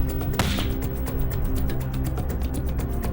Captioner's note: gunshot